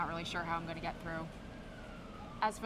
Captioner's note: ambulance siren